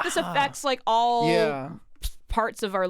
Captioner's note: chuckles